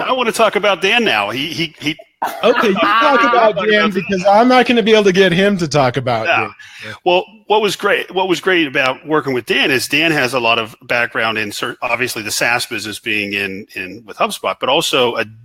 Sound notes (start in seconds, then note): 1.3 laughing